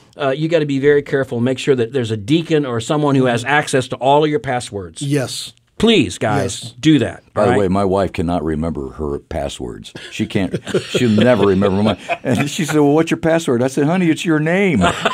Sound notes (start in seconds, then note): 10.0 laughter